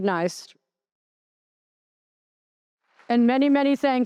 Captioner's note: applause